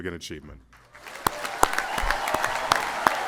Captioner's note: applause